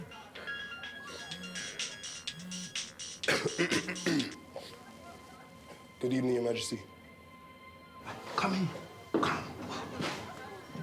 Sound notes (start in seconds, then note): 3.2 Tyler clearing throat; 7.5 pensive music